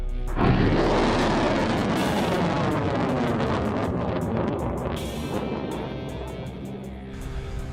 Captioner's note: missile launching